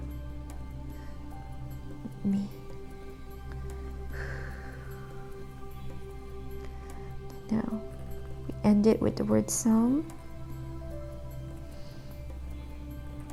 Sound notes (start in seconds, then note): 0.2 tranquil music; 3.5 inhales deeply; 10.5 tranquil music